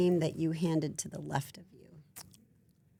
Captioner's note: none